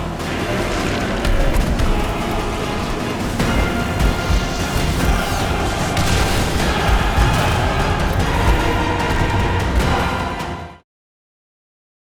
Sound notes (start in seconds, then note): 0.2 dragon roaring; 1.8 soaring choral music; 4.5 dramatic music; 5.8 flames roaring; 7.6 soaring choral music